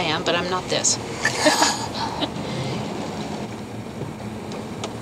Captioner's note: chuckles